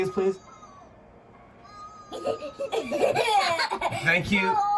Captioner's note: laughter